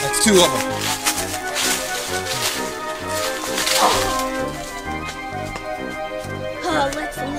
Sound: leaves crunching

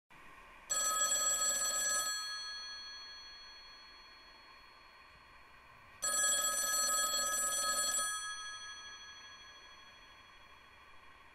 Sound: ringing

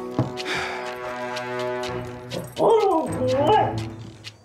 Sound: dancer howls

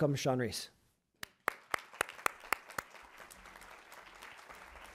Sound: crowd applauds

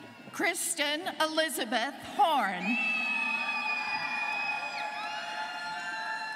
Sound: students cheering

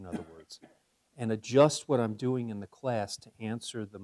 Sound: cough

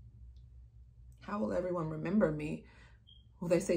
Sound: smoke detector beeping

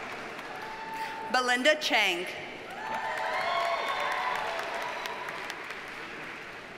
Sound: audience cheers and applauds

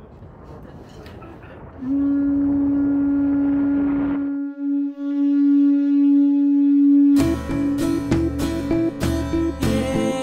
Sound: horn call

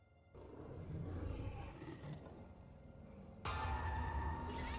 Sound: eerie music; dinosaur growls; ominous music

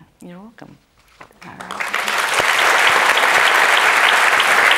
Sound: audience applauding

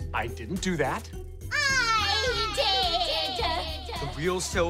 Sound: echoing

